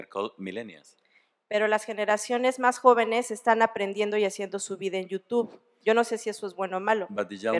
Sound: speaking spanish

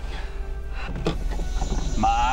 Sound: opens door, sound of cicadas floods in

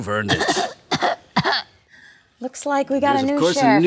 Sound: Ashley coughs

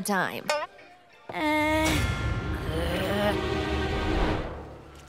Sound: growling

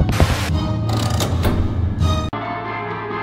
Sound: lever Sounds

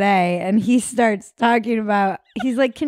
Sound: laughing

